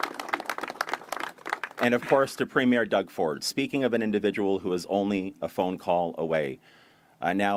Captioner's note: applause